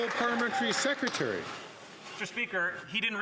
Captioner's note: some Applause